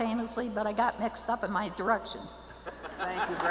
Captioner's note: laughs